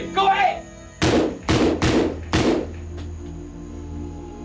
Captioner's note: gunfire